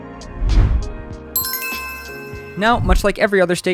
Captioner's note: soft music; chime